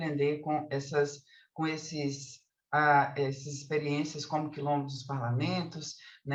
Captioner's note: continues speaking in Portuguese